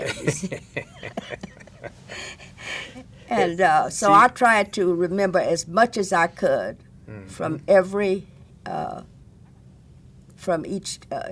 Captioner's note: chuckles